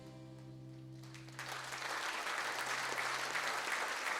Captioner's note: applause